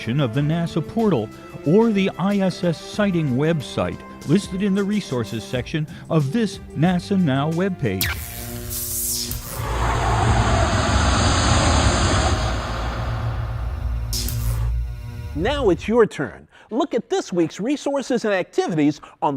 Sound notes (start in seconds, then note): 9.5 sound Effects